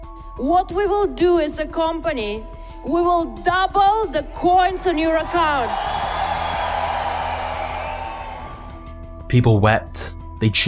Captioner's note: crowd cheers